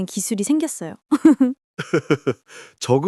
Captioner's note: laughs